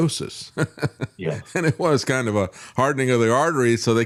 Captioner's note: laughs